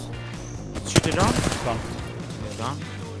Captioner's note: echo